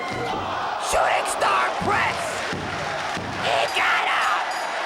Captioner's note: bell dinging